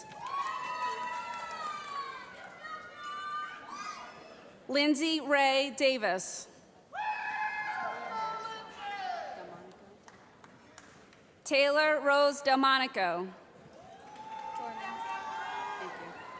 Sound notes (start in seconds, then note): 0.0 cheering; 2.6 voiceover; 6.9 cheering; 8.7 voiceover; 13.7 cheering